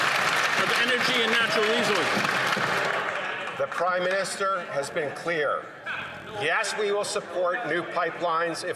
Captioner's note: some Applause